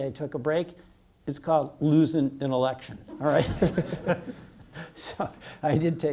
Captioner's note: laughs